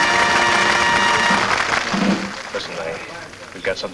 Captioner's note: patrons clap